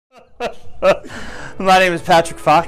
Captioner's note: laughing